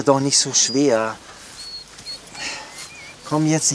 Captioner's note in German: Winseln